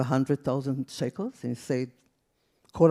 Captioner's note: speaks in foreign language